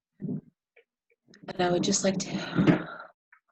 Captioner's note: breathes